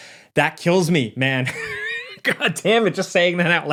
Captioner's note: laughs